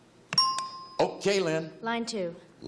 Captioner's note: bell chimes